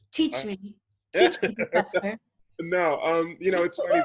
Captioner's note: laughing